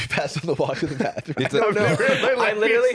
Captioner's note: laughs